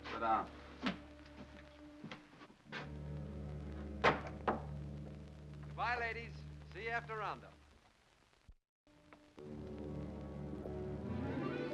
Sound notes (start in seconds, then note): 1.6 ominous music; 3.9 wood peg clatters; 9.4 ominous music